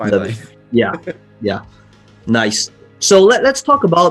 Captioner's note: laughs